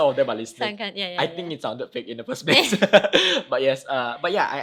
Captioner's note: both laugh